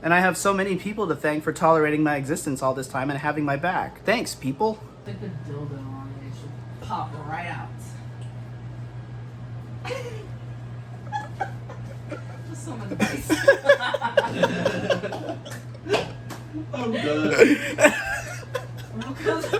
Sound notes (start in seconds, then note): 11.0 laughing; 15.5 laughter